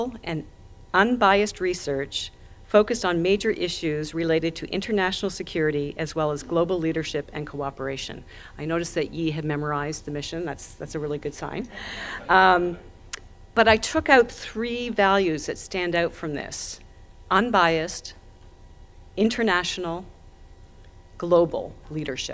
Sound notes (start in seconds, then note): 11.7 audience chuckling